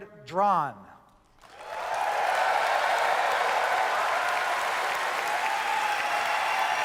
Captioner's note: audience cheers